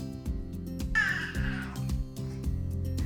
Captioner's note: baby sounds